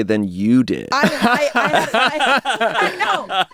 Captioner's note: everyone laughs